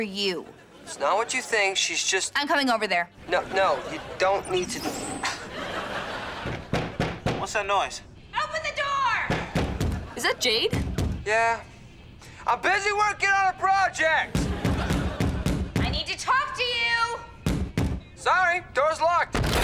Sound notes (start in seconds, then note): 6.4 knocking; 14.3 banging